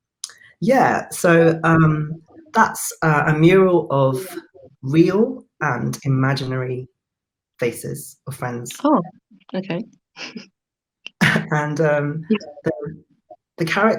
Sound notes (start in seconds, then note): 11.2 laughs